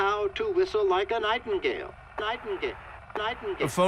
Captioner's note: record skipping